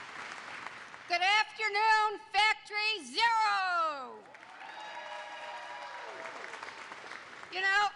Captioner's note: applause